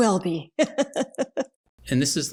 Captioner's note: both hysterically laughing